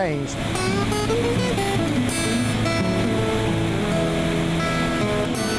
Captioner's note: twangy guitar music; machinery whirring